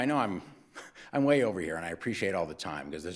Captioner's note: laughs